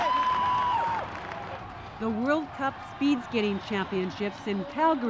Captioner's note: cheering